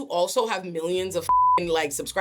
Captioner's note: beep